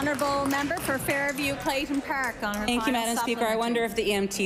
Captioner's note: applause